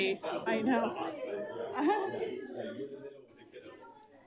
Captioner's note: group chattering